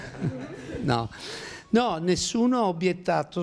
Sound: laughing

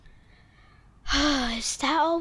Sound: exhales

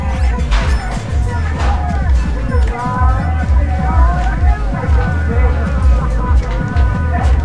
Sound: yelling

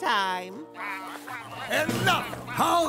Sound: ducks quacking

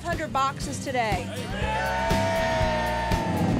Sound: cheering

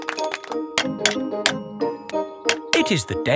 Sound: clanking

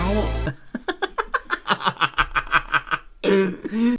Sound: maniacal Laughter

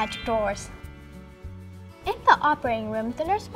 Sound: bling

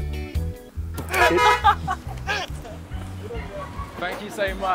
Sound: beeping

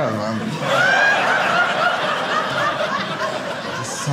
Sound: audience laughing

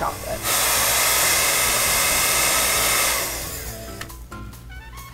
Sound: hair dryer blowing

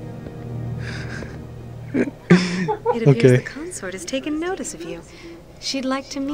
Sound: laughs

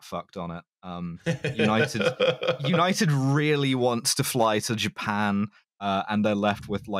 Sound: laughing

